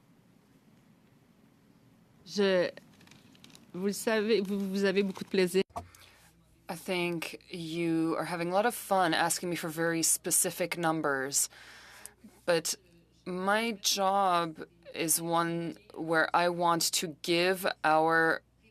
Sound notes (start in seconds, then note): 14.3 speaking french